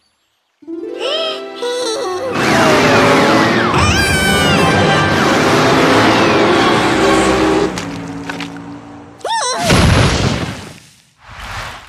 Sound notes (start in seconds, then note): 0.6 sighs; 2.3 traffic sounds; 3.7 exclaims loudly; 9.9 thunderclap